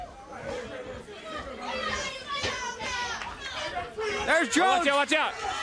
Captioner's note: crowd chatter